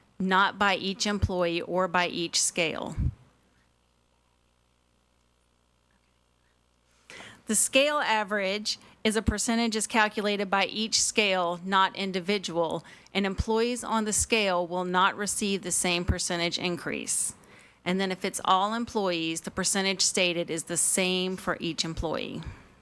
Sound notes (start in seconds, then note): none